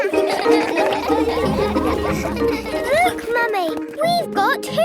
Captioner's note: all laugh